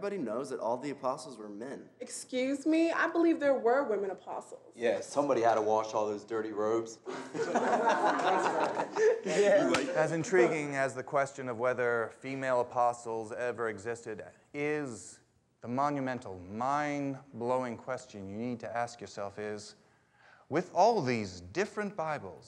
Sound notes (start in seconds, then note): 7.0 students laughing